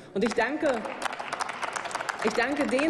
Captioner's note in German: Applaus